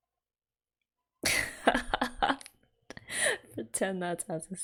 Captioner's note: laughs